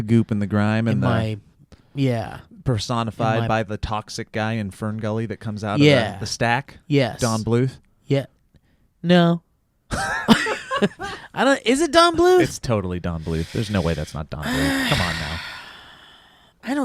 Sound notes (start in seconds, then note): 10.0 laughs